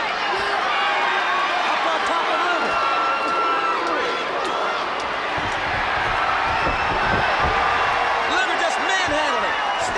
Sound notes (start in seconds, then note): 0.3 crowd cheering; 4.3 crowd cheering